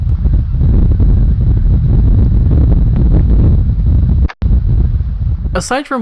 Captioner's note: jarring cut to fire from shore sound; fire sound stays at a constant volume